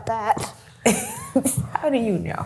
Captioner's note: laughs